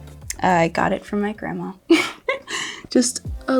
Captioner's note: laughs